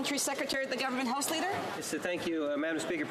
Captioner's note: speaking French